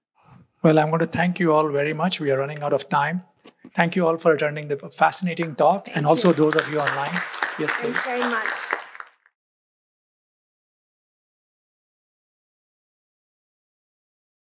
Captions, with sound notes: - Well, I wanna thank you all very much, we are running out of time. Thank you all for attending the fascinating talk and also those of you online. - Thanks very much. (crowd clapping)